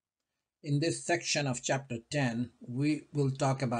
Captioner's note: voiceover